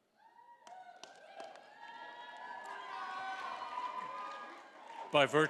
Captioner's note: audience applauding and cheering